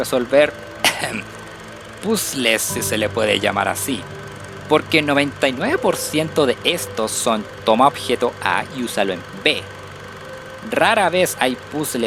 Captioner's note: ahem